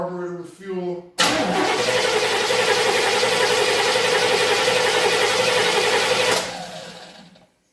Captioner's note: engine cranking